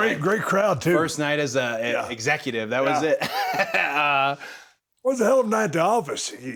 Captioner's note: chuckles